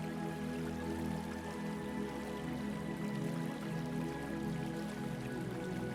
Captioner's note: water trickling